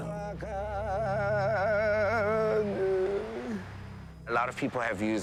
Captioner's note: chanting continues